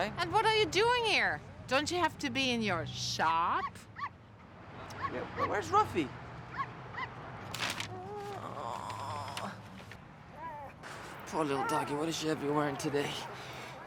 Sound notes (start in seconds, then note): 3.9 barking sounds